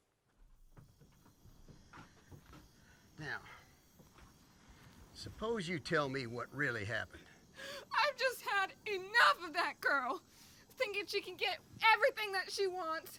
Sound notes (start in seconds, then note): 0.7 insects buzzing